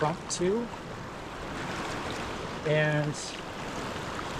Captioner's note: water splashing